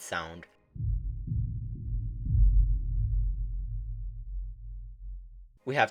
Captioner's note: deep heartbeat sound